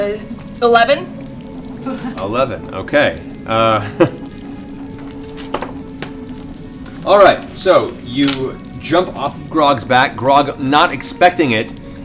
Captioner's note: laughs